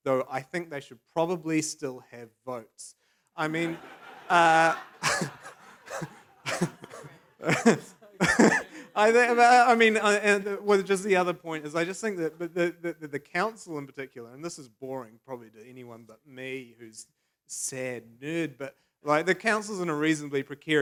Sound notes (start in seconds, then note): 3.4 laughter; 5.1 laughs